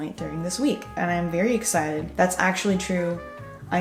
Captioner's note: none